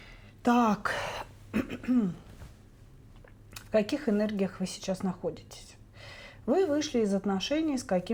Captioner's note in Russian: откашливается